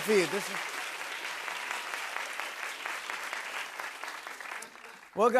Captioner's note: applause